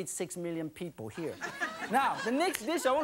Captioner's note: laughing